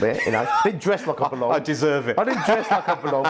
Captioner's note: laughs